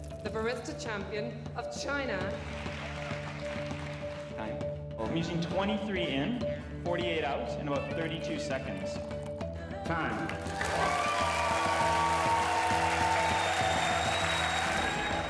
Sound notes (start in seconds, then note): 10.1 cheering